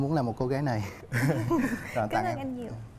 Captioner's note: laugh